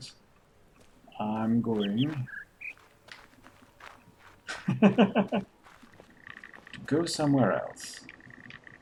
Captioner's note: chuckles